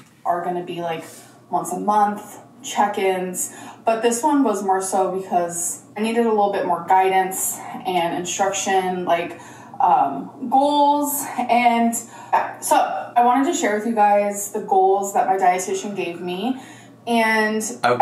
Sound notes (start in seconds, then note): none